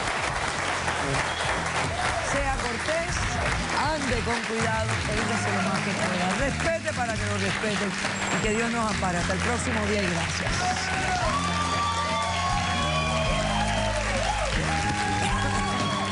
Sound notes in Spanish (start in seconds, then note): 10.2 aclamaciones; 11.6 aplausos